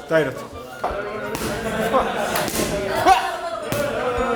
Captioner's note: sweat splashes